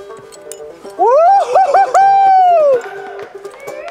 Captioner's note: banjo music; cheering; friends clapping